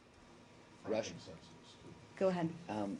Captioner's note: off-mike